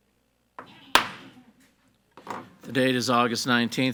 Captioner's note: gavel bangs